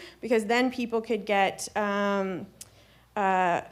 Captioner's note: none